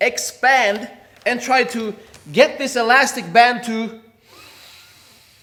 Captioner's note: air hisses